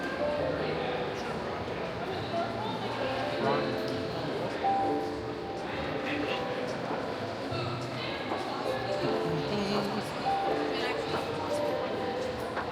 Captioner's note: children chattering